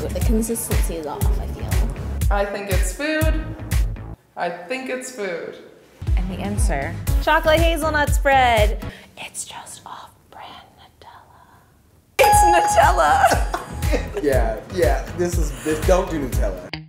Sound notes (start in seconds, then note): 13.2 loud laughing